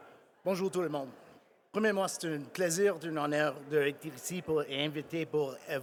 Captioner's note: speaking in French